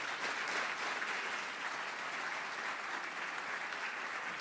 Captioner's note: applause